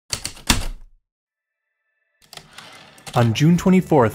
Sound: typewriter keystrokes, return slide

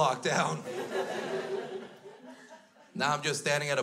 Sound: crowd laughs

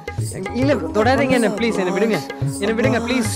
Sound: abbas hesitates continously

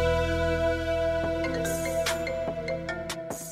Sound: phone ringing

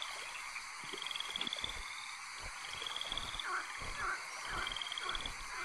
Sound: animals calling continues

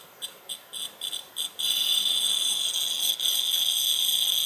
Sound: audible popping noise

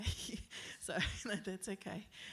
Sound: giggles

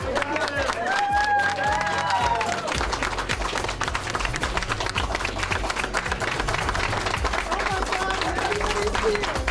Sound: hands clapping

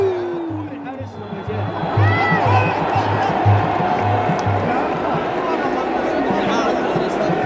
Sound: clap

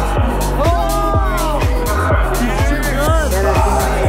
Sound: group groans

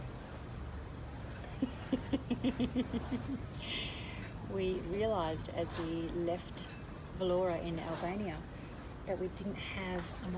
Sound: giggle

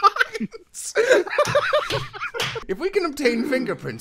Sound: laughter

